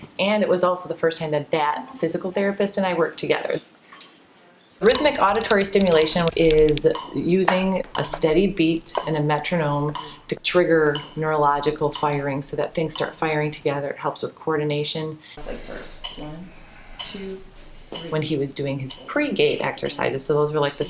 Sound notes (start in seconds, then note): 4.3 metronome beating